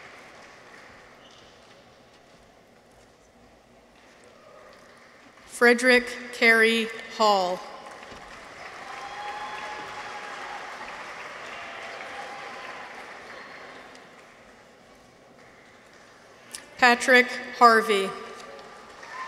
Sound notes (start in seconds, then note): 7.8 audience applauds; 8.1 people cheer